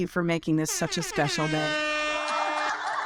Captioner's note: horn blasts; audience laugh